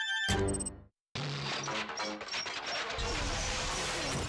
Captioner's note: whirring